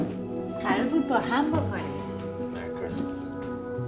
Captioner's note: speaking foreign language